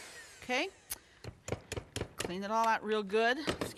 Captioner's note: beaters thudding